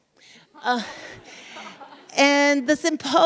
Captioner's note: audience laughs